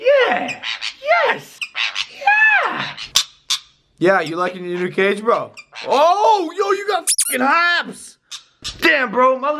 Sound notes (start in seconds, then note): 4.2 normal voice; 7.0 squeak